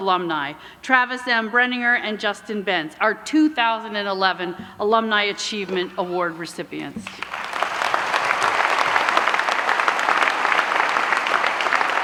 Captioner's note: applause